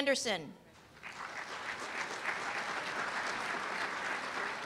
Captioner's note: applause